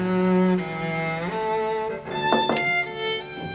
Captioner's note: knock on door